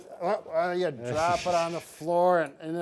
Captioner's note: laughs